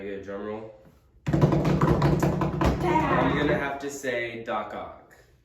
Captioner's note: drumming on table